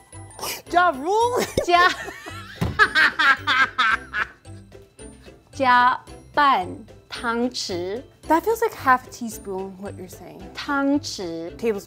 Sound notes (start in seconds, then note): 1.4 both laughs; 5.6 speaking in mandarin; 10.8 speaking in mandarin